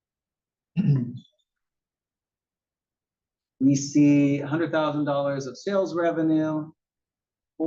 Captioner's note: cough